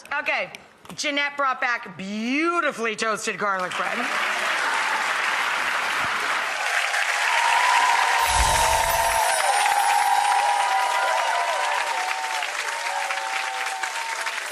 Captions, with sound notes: Okay, Jeanette brought back beautifully toasted garlic bread. (audience cheers and applauds) (chime music)